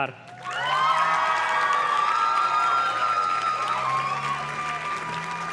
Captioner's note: audience cheers and claps